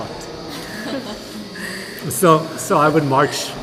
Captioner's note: laughter